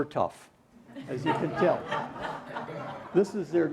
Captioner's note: laughter